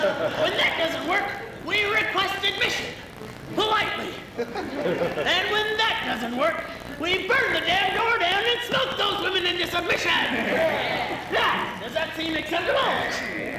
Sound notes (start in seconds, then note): 10.2 men voice agreement